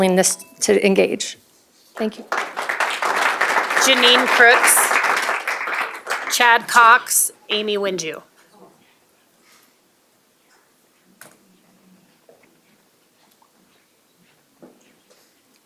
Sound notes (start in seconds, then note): 3.9 applause